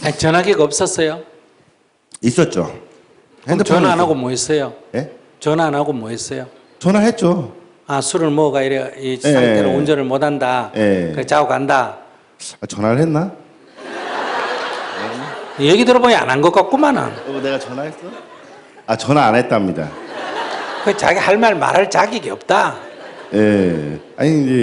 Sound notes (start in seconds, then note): 13.7 audience Laughter; 19.8 audience Laughter